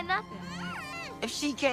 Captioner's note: moans